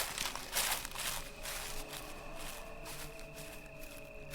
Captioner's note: leaves crunching